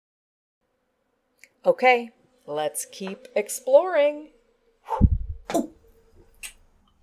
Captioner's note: makes sound of throwing and catching the ball